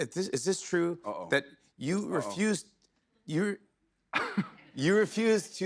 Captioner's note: chuckles